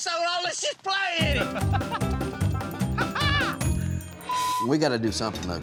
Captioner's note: laughing